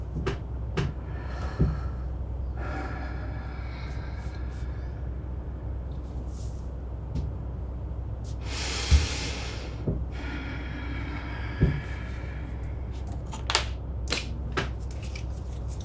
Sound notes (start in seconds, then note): 0.8 mother breathing deeply; 8.8 mother sighs; 12.9 objects rattling